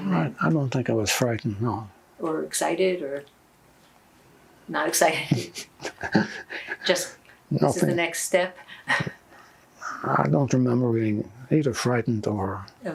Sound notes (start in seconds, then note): 5.2 laughing